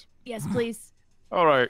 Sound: laughs

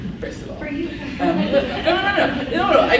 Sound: laughs

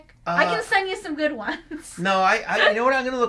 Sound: laughs

